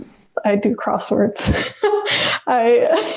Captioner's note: laughs